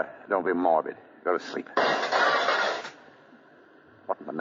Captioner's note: gunshots